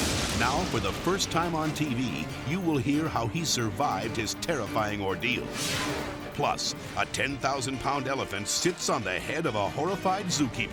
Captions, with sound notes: Now for the first time on TV, you will hear how he survived his terrifying ordeal. (air whooshes) Plus, a 10,000-pound elephant sits on the head of a horrified zookeeper.